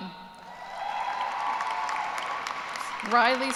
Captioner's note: cheers and applause